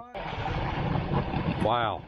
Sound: water draining

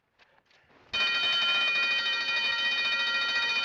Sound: alarm sounds

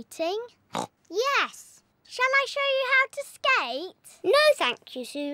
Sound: snorts

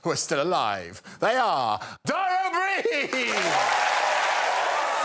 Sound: crowd cheers

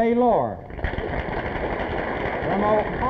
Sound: applause

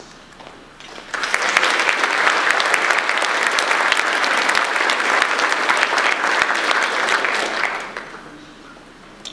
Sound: audience applause

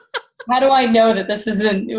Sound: laughs

